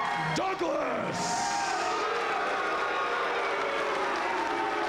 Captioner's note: crowd cheering